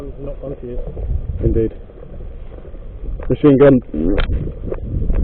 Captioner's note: fart